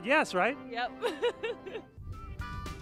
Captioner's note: laughs